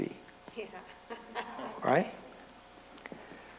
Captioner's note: laughter